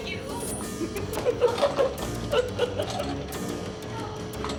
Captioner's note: cackling